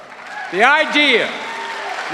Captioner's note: cheers and applause